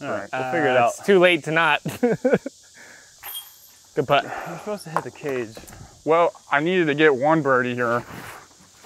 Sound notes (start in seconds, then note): 1.8 laughs